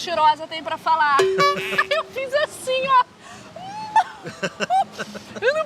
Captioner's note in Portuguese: rindo; risos